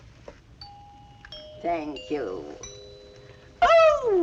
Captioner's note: bell ringing